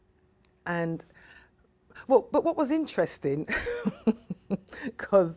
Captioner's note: laughs